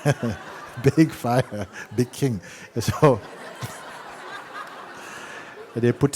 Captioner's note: laughter